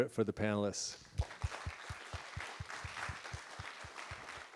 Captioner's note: applause